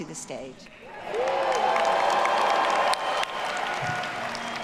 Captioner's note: audience cheering